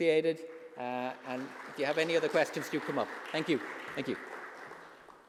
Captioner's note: applauds